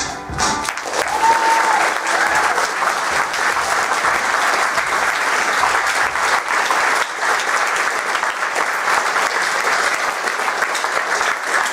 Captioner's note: applause